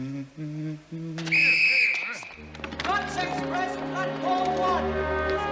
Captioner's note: whistle